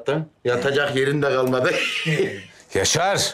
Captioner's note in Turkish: Gülme sesi